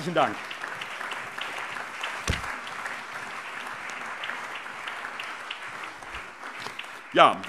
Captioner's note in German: Allgemeiner Beifall